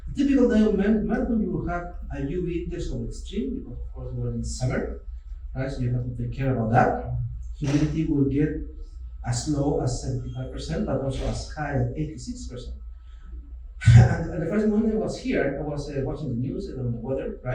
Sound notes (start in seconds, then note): 13.8 chuckling